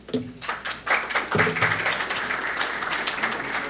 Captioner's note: applause